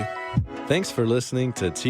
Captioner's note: voiceover